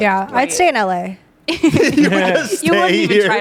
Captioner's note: everyone laughs